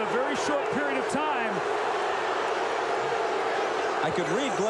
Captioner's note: crowd booing